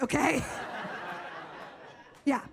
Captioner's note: audience laughs